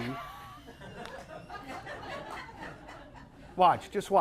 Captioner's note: laughter